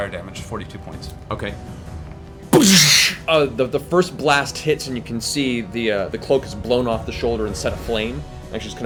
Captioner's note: gunshot